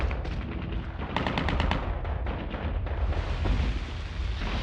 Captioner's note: gunfire blazing